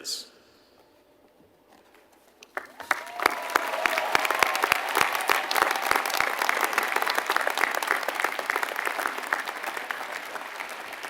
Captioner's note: applause